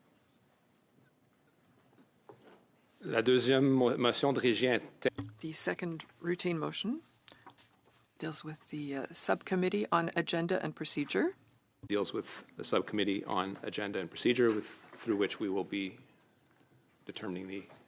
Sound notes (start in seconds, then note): 9.0 speaking in French